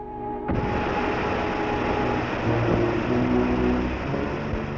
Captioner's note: gas spreading